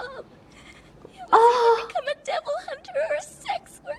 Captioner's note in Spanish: Indignación pura